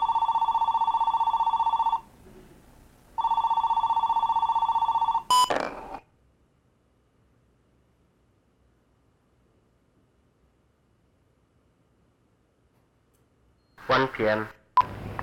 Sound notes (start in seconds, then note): 0.1 telephone ringing; 5.2 ball rolling; 5.2 beeping